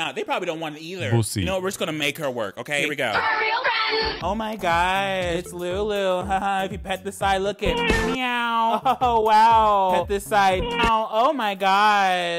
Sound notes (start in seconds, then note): 7.8 man meows; 10.6 cat meows